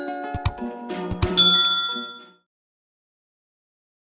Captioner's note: bell rings